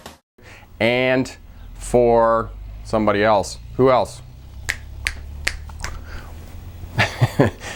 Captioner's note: snapping fingers